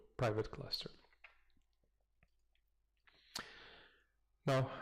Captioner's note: pause